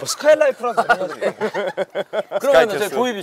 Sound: laughing

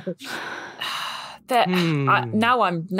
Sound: laughs; sigh

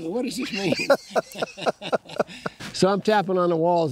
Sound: laughing

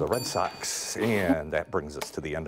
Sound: bell rings

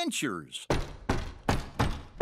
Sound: knocking

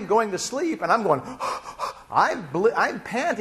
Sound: panting

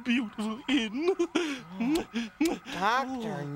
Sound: kisses

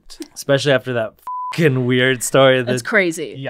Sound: beep

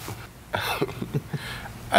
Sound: chuckles

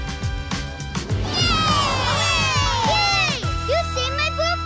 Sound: cheering

